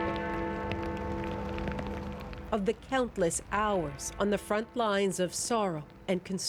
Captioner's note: bells tolling